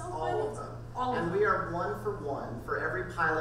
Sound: voiceover

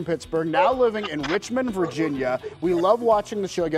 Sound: laughter

